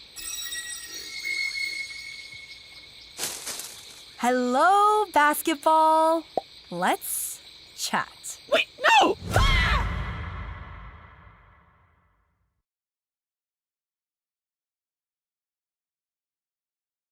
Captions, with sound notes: Hello, Basketball! Let's... chat. WAIT, NO!! [BASKETBALL YELLS, FADES AWAY]